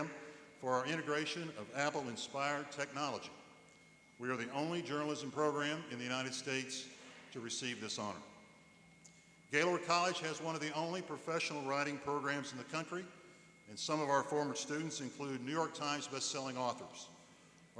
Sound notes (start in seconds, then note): none